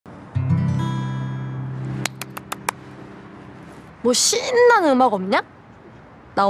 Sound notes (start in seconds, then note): 2.0 clapping